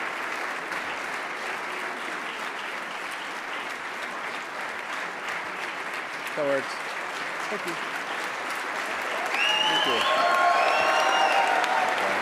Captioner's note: applause